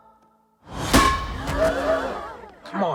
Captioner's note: crowd gasps